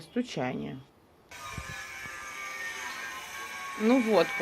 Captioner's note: sound of drilling